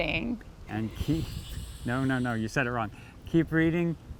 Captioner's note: laughs